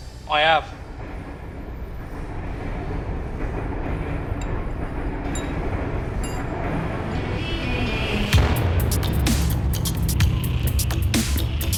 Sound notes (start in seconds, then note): 2.3 train rumbling; 6.2 tools clinking; 8.3 upbeat techno music